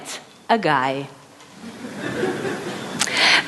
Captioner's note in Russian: Смех